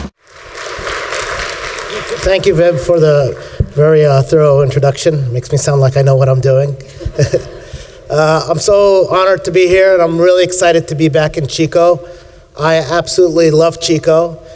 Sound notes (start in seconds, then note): 0.0 applause; 7.0 laughs